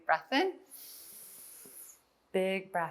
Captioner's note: inhales